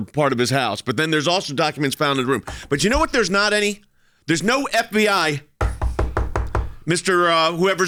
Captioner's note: knocking